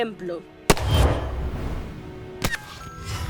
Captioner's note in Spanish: Disparo